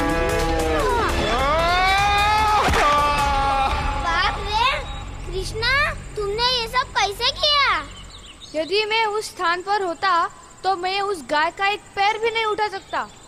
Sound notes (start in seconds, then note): 0.0 groans